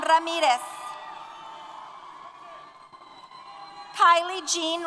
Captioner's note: applause & Cheers